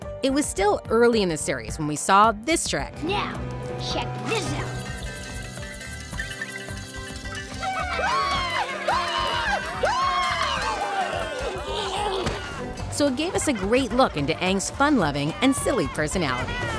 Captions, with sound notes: It was still early in the series when we saw this trick. Now, check this out. [cheering] So, it gave us a great look into Aang's fun loving and silly personality.